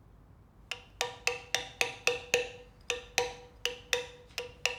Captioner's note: chisels tapping